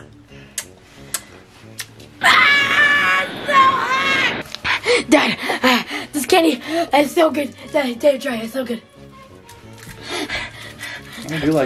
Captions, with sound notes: - (yells) It's so hot! (panting) Done. This candy is so good that I dare you to try it. It's so good (gasping).